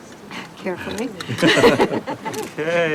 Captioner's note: laughing